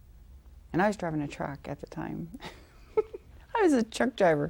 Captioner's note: laughing